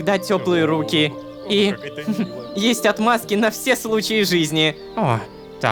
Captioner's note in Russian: шепотом